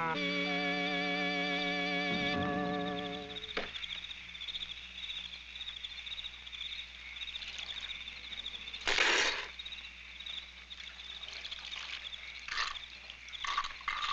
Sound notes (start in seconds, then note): 0.0 gentle instrumental music; 8.8 spitting